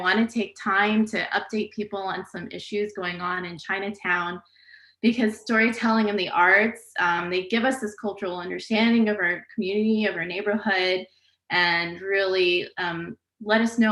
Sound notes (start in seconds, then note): none